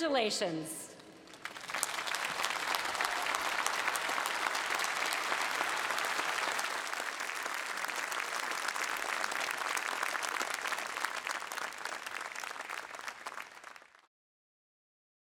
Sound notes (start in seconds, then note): 4.4 applause